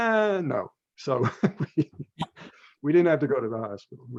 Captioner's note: laughs